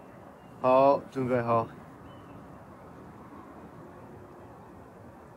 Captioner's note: speaks in Chinese language